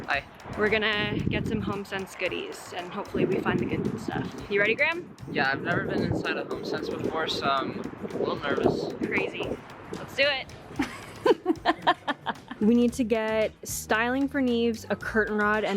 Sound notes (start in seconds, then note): 10.8 laughing